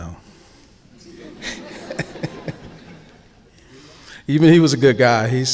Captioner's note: audience laughing